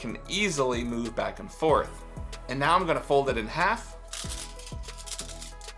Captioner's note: aluminum foil rattling